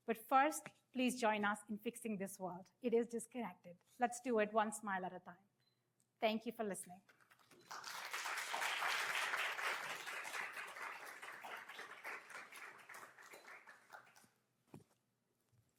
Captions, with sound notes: But first, please join us in fixing this world. It is disconnected. Let's do it one smile at a time. Thank you for listening. [APPLAUSE]